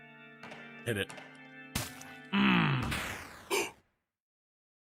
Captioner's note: gasps